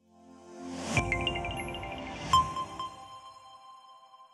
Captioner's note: logo chiming